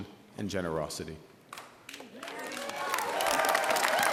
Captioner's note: applause